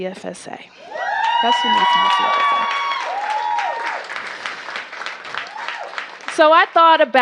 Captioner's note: cheers and applause